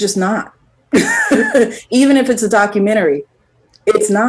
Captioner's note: laughs